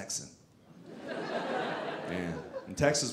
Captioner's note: audience laughing